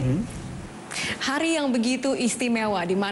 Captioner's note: non-english speech